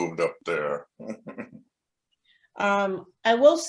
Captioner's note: giggles